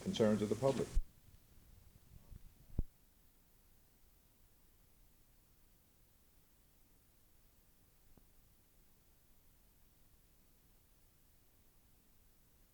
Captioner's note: silence